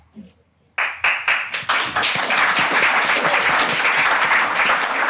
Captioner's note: audience applauding